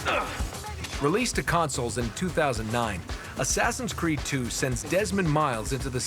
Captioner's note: grunting